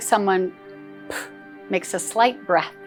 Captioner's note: poof